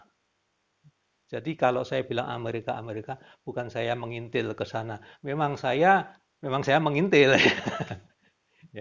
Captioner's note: laughter'